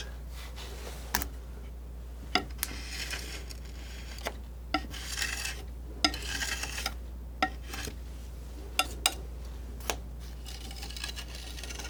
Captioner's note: tapping